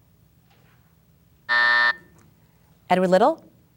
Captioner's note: bell buzzes